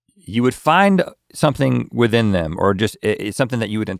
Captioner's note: none